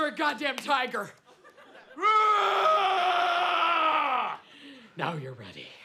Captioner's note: roars